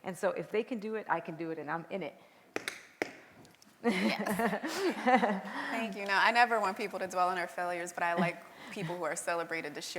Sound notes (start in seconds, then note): 2.2 taps